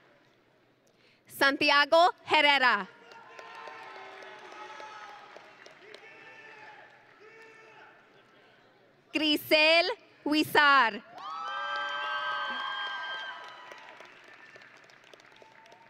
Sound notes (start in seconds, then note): 3.0 audience and graduates cheering; 8.7 cheers; 11.1 audience and graduates cheering